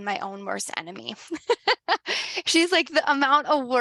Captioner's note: laughs